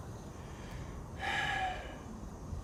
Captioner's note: sighs